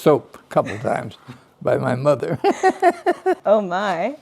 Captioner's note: laughs